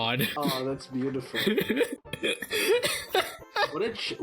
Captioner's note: laughs